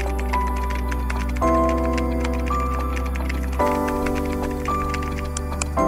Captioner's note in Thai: ปรบมือ